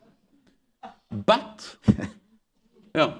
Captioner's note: laughter